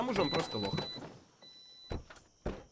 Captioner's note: beeping; car doors close